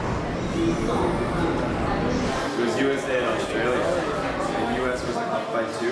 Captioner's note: airport ambience